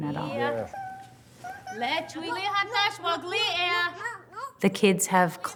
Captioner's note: speaking Lakota